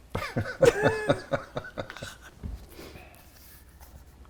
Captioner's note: both laughing